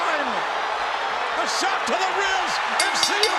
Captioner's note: crowd roars; bell rings